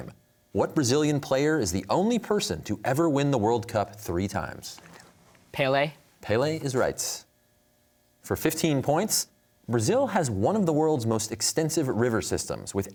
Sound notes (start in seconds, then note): 4.9 whispering